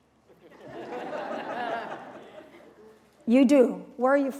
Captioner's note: laughter